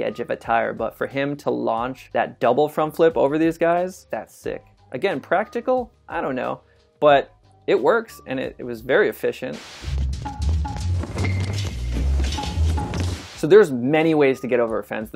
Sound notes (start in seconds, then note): 9.5 static noise; 9.6 action music